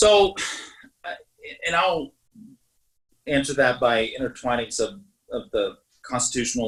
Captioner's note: sighs